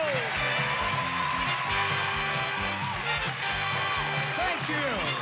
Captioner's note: audience cheering